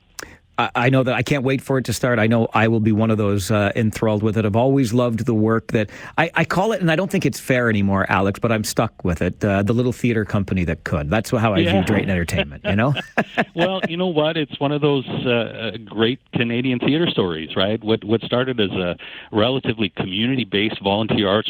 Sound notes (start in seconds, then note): 11.5 laughing